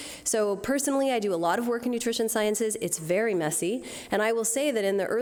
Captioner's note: none